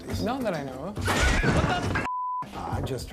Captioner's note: crashing, clattering